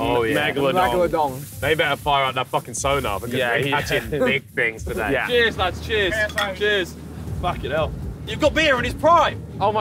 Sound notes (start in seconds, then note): 6.1 bottles clink